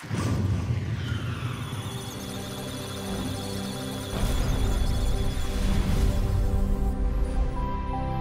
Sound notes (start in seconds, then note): 1.3 electronic sounds of data; 1.7 musical tones